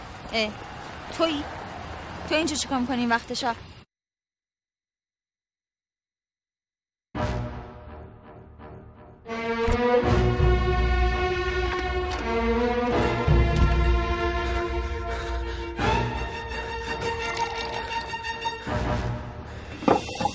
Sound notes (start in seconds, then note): 14.7 panting; 17.0 milk splashing